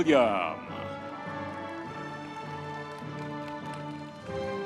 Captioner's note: audience members cheering